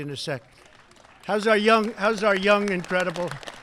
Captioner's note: applause